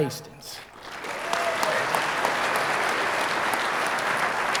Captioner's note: audience applauding